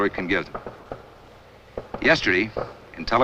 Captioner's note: explosions in a distance